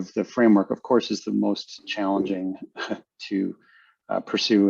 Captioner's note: chuckles